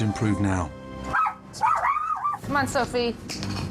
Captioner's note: dog barking